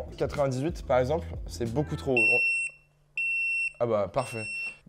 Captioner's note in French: Bruits d'alarme